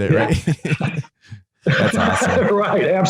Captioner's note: laughing